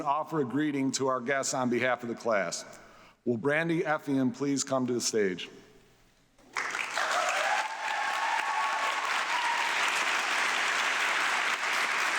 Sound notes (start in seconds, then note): 6.5 audience applauding